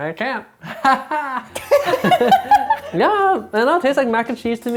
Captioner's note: laughing